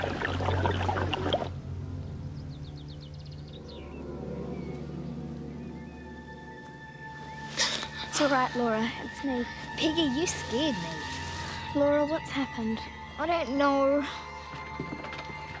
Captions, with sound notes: (girl gasping) - It's all right, Laura, it's me. - Peggy, you scared me. - Laura, what's happened? - I don't know.